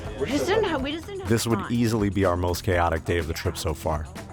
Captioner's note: voiceover